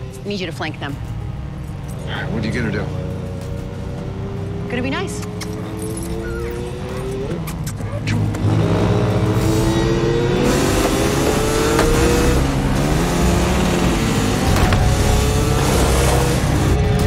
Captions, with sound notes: I need you to flank them. What are you going to do? Going to be nice. [kissing noises] Come on.